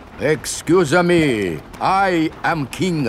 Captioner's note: none